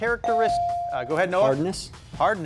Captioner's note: bell dings